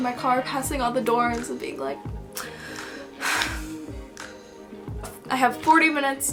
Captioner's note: sigh